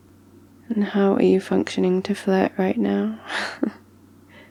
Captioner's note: laughs